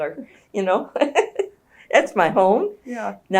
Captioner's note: laughs